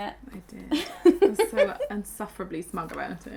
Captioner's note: laughing